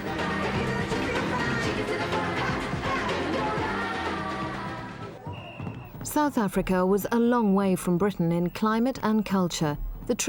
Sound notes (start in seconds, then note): 5.2 whistle blowing